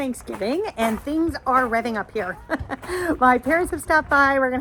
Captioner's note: chuckles